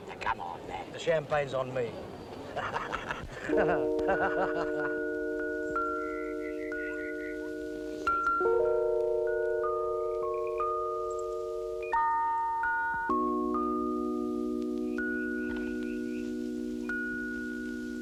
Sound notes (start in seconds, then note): 2.4 hearty laughter; 3.6 tender instrumental music